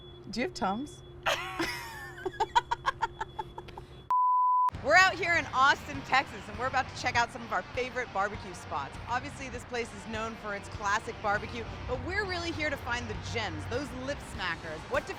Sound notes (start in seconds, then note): 1.2 both laughing; 4.3 beeping